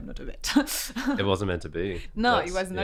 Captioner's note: laughs